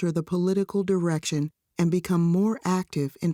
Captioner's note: none